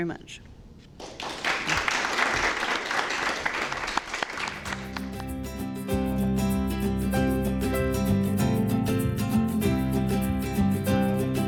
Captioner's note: applause